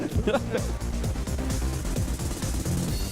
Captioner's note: laughter